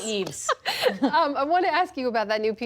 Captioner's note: laughter